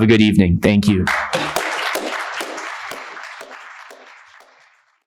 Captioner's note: attendees applauding